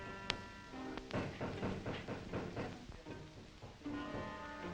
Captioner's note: men banging